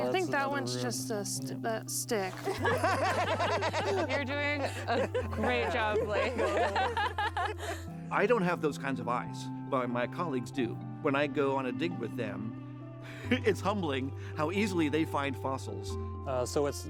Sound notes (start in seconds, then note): 2.3 laughter; 6.4 laughs